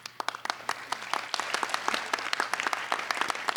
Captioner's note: applauding